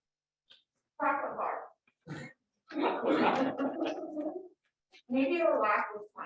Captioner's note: laughter